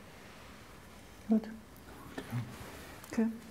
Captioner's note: quietly